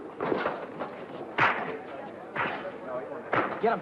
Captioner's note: fists thudding